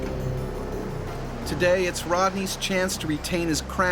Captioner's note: voiceover